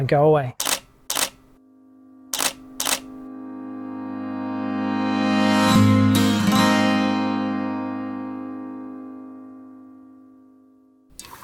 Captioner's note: camera shutter clicks and music swells